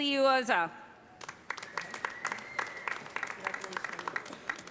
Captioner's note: applause